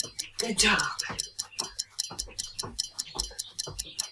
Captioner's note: feet clacking; timer ticking